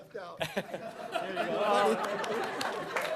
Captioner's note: laughter